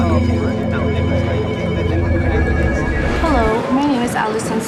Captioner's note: phones ringing